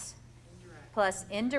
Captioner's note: voiceover